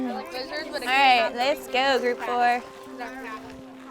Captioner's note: children talking excitedly